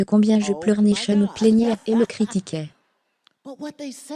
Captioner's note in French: des rires